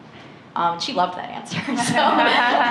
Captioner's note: laughter